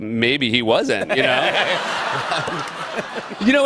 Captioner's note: laughter